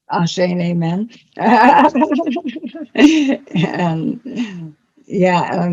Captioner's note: laughter